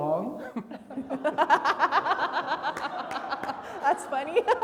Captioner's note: everybody laughing; clapping